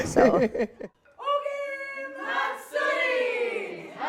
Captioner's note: chanting